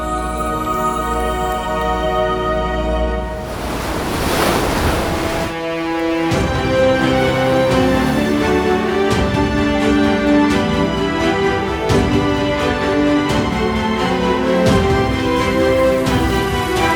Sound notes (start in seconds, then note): 0.1 ethereal tones; 3.2 waves crash; 6.5 dramatic orchestral music